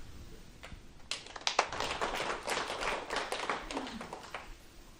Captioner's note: applause